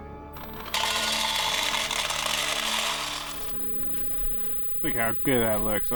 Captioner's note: rattling sounds